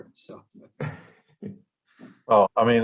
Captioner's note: laughs